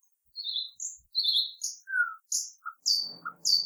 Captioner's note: birds chirping